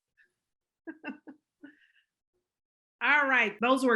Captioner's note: laughs